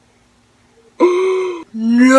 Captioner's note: le shooketh gasp